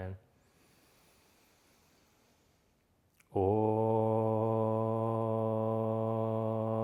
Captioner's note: inhaling